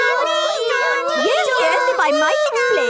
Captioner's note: children imitating sirens